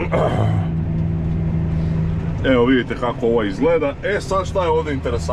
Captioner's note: coughs